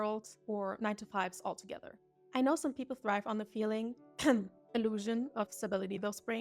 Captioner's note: cough